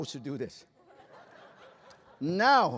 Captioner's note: laughter